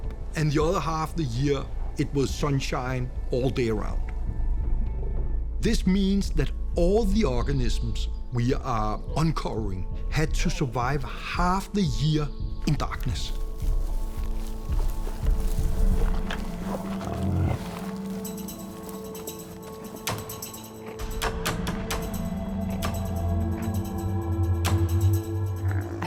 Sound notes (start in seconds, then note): 12.6 footsteps on vegetation; 16.8 snuffling, light growling